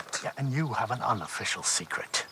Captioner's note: none